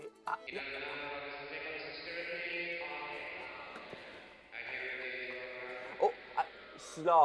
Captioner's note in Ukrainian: звуки церковної служби